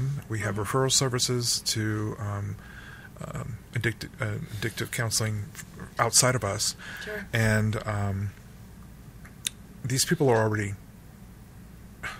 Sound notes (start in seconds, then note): none